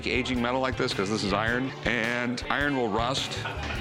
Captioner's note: none